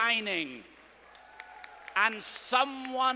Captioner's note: students applauding